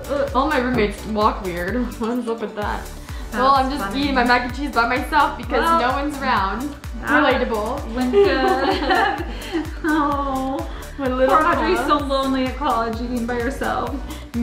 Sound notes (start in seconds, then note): 8.0 laughs